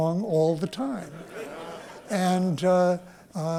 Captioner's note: laughter